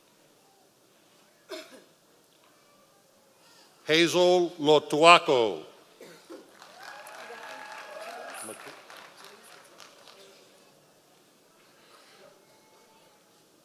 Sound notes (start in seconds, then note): 6.6 members of the audience cheering